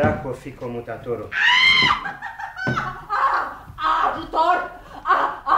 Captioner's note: screams in fear